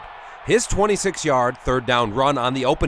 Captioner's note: crowd